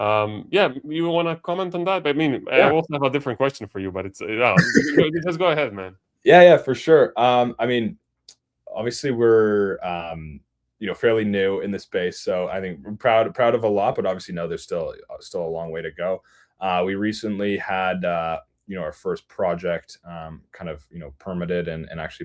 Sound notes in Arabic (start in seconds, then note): 4.5 ضحك